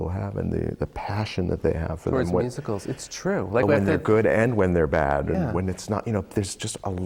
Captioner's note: laughs